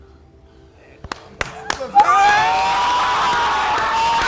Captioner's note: family cheering